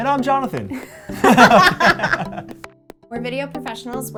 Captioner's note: both laughing